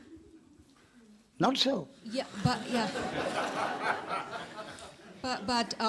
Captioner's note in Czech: smích